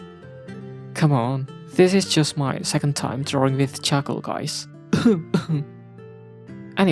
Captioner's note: cough